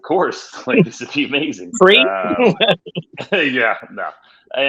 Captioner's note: laughs